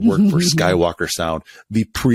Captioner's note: laughs